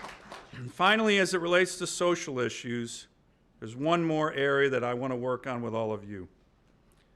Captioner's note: applause